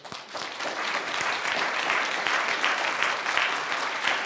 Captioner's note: audience applauding